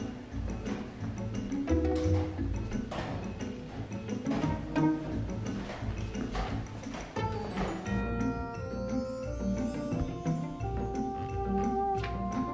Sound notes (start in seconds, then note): 2.1 steps approaching